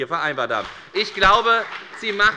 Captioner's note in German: Beifall bei der FDP